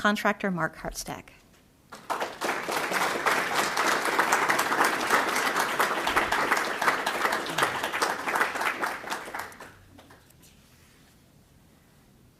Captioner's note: applause